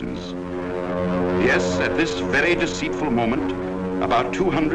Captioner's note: voiceover